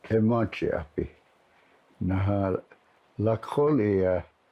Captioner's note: speaking in Lakota